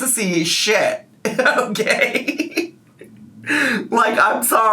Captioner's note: laughs